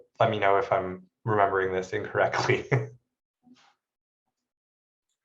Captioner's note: laughs